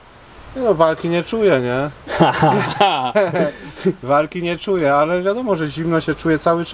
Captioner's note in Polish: śmiech